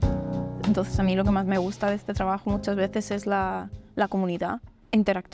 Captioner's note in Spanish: en español